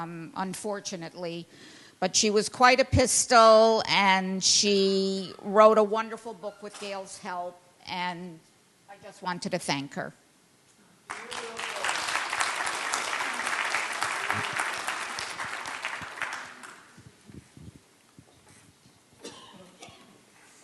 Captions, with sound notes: unfortunately, but she was quite a pistol, and she wrote a wonderful book with Gail's help, and I just wanted to thank her. [Applause]